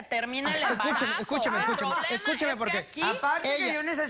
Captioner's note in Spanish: Risa sarcástica de la Doctora